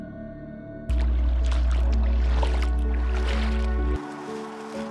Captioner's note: water swooshes